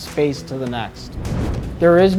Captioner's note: note swooshes